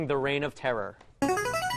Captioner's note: ringer